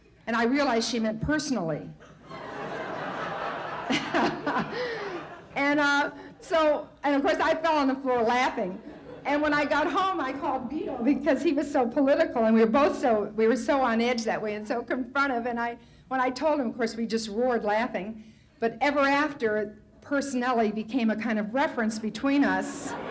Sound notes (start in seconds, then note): 2.0 laughter; 3.8 Tomlin laughs